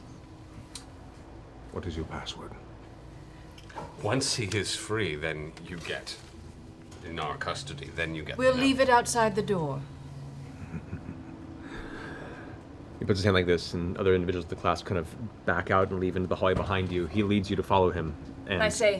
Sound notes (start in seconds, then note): 10.4 chuckles